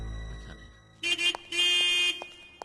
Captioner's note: horn Honking